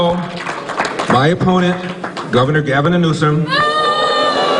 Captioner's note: crowd booing